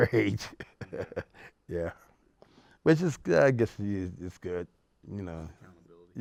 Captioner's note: laughs